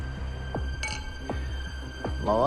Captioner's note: dark music playing; glasses clink